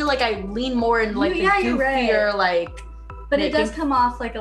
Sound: murmurs

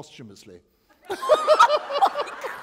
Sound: laughter

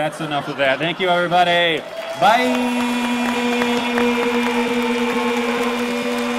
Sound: echoing; cheers and applause

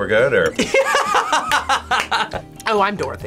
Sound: laughs

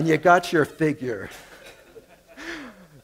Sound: laughter

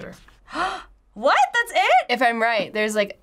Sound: gasps

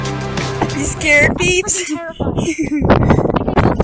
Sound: laughing

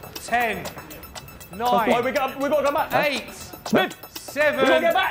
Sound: none

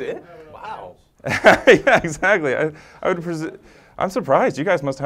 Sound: laugh

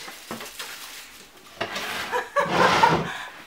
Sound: laughs

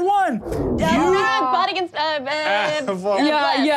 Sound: murmurs

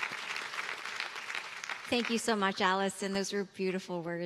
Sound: cheers and applause

